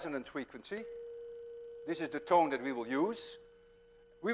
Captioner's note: plays high tone